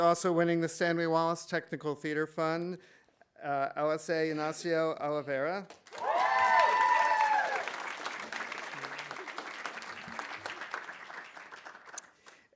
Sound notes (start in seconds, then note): 5.7 audience applauding; 5.9 audience cheering